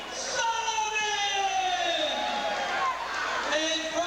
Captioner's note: crowd cheering